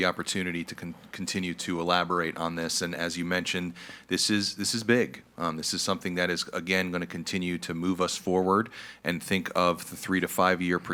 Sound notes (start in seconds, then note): none